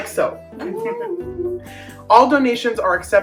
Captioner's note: chuckles